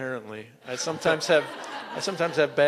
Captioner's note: laughter